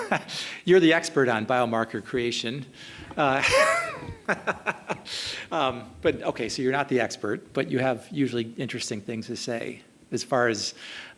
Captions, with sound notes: you're the expert on biomarker creation. (laughing) But, okay, so you're not the expert. But you have, usually, interesting things to say, as far as